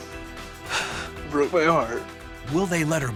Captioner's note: crying